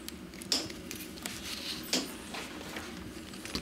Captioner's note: hammering